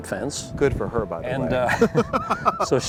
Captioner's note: laughing